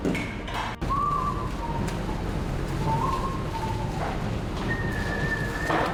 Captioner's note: whistle